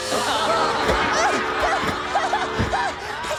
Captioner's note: laughs